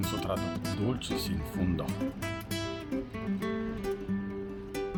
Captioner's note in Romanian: vorbind italiană